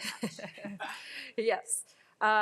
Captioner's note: laughs